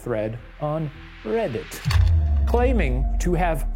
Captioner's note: slide projector clicks